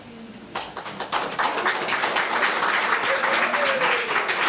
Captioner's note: members applauding